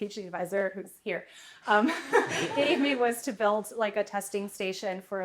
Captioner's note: laughter